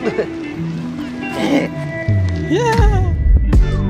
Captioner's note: moans